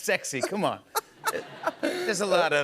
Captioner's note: laughs